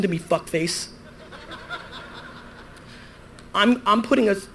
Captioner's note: audience laughter